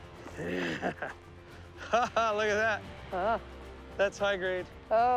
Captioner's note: chuckles